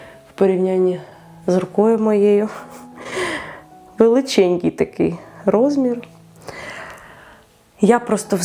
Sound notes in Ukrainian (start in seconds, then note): 3.3 сміх